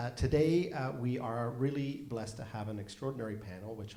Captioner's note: none